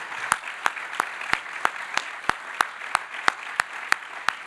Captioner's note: audience applauding